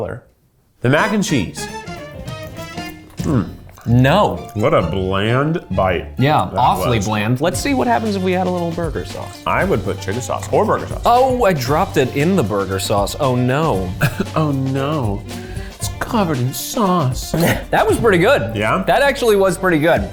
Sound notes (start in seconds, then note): 13.7 laughs